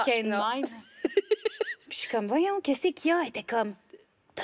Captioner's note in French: rires